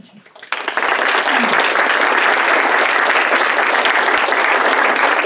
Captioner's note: audience clapping